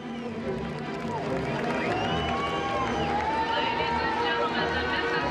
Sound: crowd claps and cheers

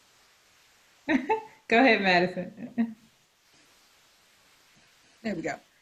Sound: chuckles

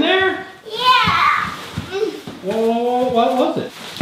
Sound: moans

